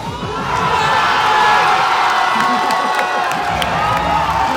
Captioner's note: crowd erupts in cheers